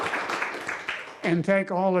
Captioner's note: applause